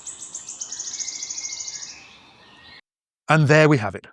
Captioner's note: wood warbler singing in Slovak forest